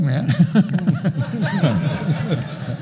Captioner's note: laughing